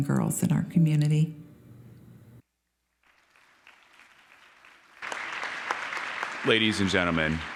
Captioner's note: applause